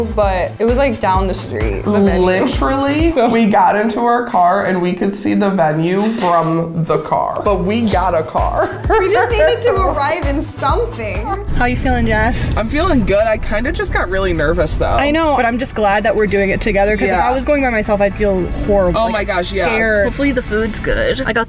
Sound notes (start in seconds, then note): 7.9 laughs